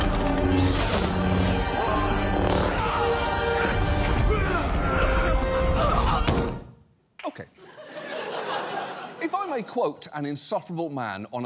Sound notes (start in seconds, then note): 4.3 grunting; 7.6 studio audience laughs